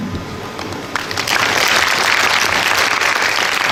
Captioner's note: applause